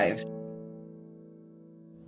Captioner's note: beat